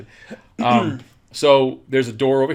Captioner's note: laughs